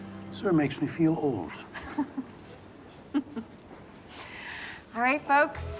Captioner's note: chuckling